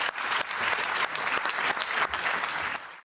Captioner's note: applause